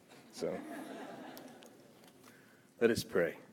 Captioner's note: audience laughs